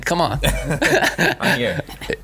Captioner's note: laughing